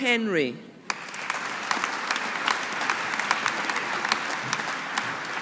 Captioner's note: audience applauding